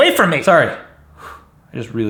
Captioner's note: exhales